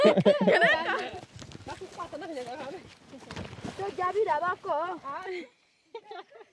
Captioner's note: laughing; women speaking in foreign language